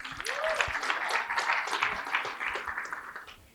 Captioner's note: applause